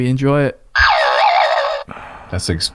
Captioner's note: spring boinging